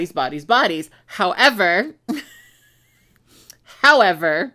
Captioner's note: chuckles